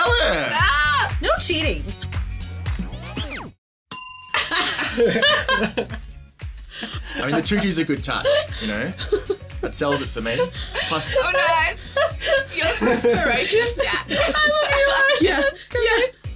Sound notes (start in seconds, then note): 2.2 upbeat music; 2.8 record screeching; 3.9 bell dinging; 4.4 group laughing